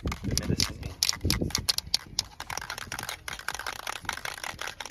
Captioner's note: can rattling